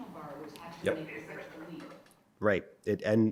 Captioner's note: people chattering